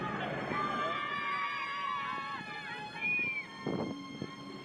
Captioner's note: children yelling